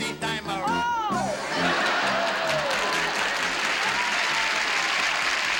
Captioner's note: applause